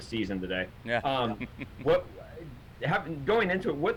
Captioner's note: chuckles